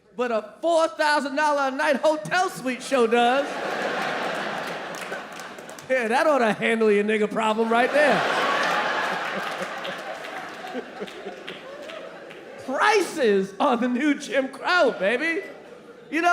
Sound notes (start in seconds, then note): 2.8 audience laughing; 7.3 audience laughing